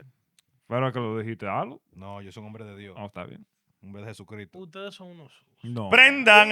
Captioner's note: speaking In Foreign Language